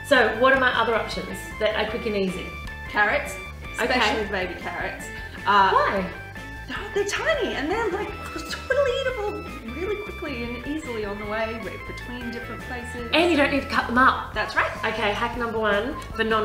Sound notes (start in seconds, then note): 8.1 mimics chewing